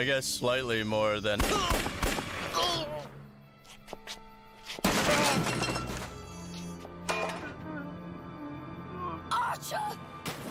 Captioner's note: gunshots, crashing